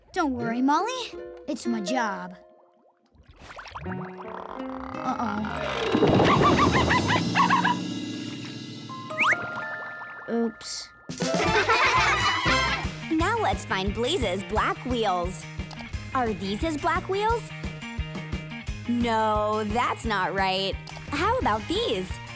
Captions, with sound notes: Don't worry, Molly, it's my job. Uh-oh... [barking] Oops. [laughing] Now let's find Blaze's black wheels. Are these his black wheels? No, that's not right. How about these?